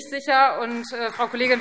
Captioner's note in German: Beifall Freie Demokraten